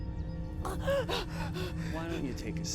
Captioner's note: dom gasping